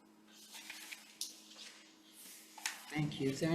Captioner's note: paper rustling